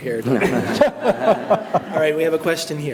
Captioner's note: all laugh